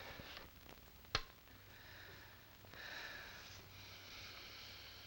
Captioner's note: light switch clicking; heavy breathing